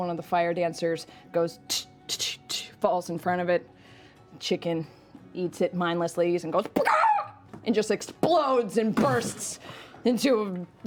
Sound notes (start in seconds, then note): 6.0 squawk